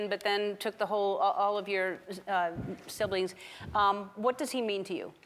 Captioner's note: none